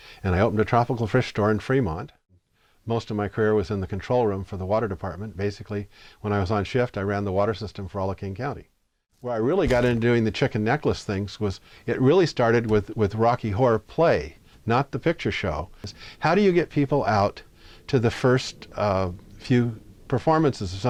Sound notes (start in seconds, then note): none